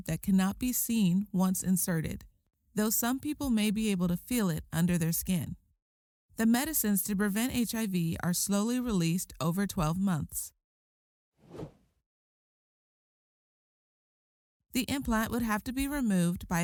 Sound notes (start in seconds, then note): 11.4 transition whooshing